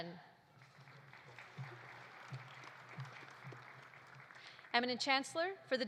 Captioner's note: audience applauding